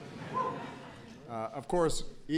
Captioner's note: laughter